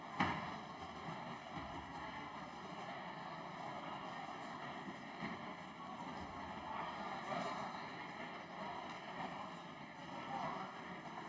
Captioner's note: din of conversation